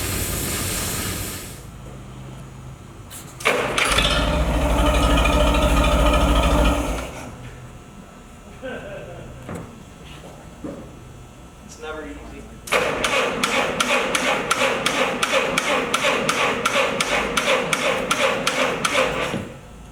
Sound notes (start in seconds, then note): 3.4 engine starts, then stops. laughs; 15.4 engine cranking